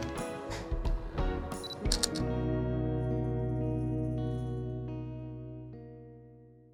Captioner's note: gentle music; camera shutter clicks